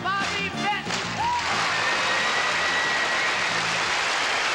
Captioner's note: applause